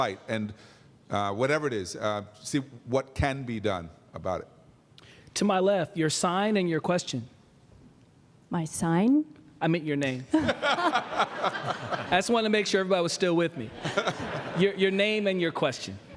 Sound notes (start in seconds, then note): 10.2 laughter